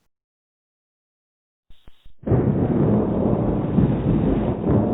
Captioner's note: thunder